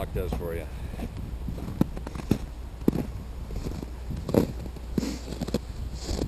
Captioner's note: crunch, crunch, crunch